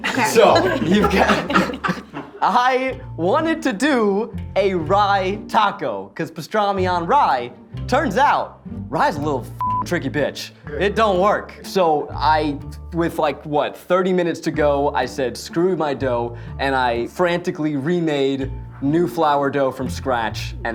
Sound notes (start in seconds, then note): 0.0 everyone laughing; 9.6 beep